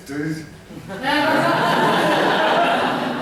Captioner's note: laughter